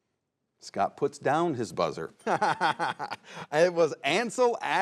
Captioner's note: chuckles